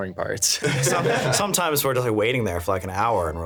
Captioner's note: laughing